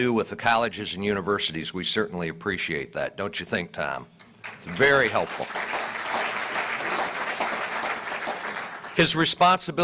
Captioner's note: applause